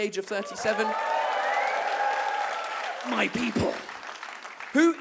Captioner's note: audience cheers and claps